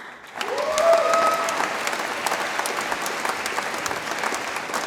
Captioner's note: audience applauds and cheers